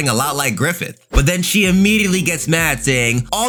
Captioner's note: air whooshing